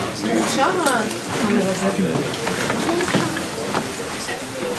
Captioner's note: chatter